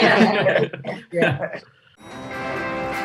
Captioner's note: laughs